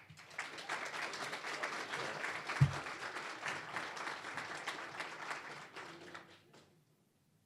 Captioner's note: applause